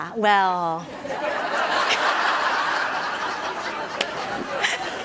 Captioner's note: audience laughing